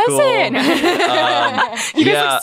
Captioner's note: laughs